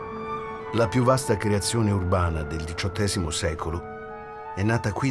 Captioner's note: Toni Servillo, in Italian